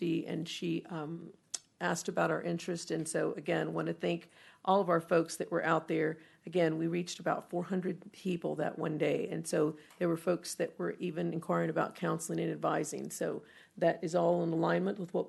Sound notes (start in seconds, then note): none